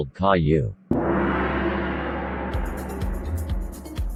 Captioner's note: gong ringing